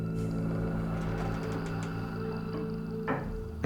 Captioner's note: floorboard creaks